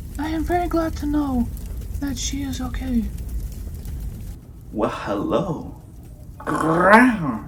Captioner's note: meow